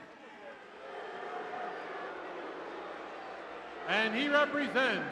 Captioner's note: crowd booing